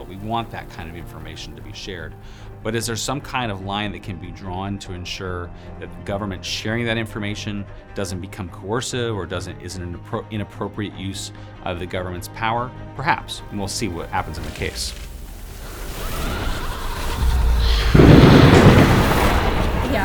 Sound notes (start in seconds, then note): 13.4 fire crackling; 15.8 ominous laughing; 15.8 transition whooshing; 18.0 thunder crashing